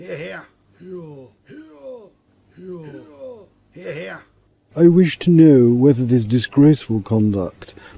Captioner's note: cries of "Hear Hear"